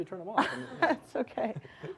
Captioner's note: laughs